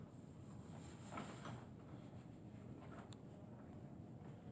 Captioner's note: wiping sounds